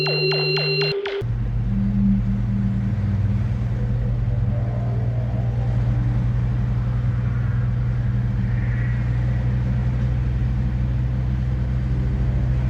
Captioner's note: running engine